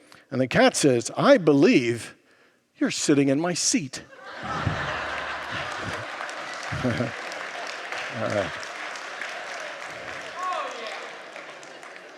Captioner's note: congregants laugh and applaud